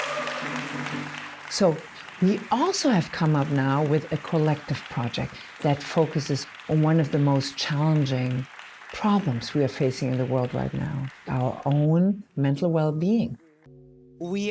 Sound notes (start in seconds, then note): 1.6 clapping and cheering